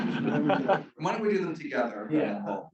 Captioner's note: chuckles